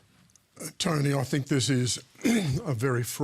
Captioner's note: clears throat